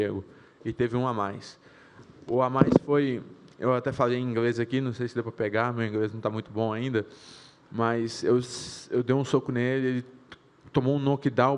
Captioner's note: speaking foreign language